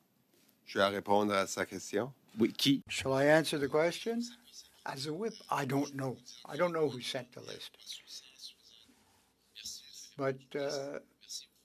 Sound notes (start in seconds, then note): 4.7 speaking French